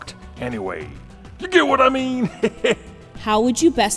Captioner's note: chuckle